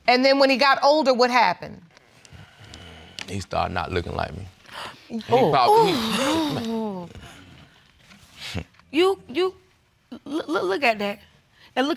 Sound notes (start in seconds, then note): 5.4 sigh in exasperation